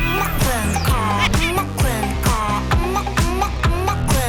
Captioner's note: hahaha